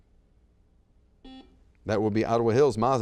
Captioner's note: buzzer beeps